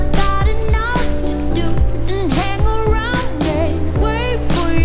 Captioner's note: dog whining